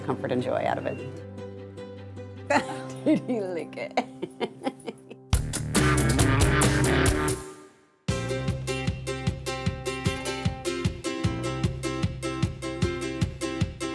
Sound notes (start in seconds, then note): 2.5 chuckles